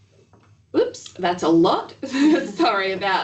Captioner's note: laughs